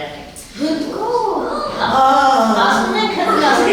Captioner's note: gasping